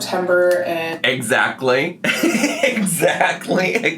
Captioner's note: laughs